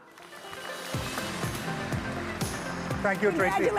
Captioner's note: audience applauds; exciting upbeat music